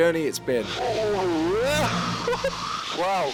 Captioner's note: yelps